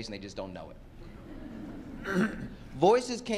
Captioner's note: laughter